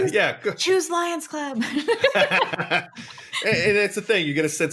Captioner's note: both laugh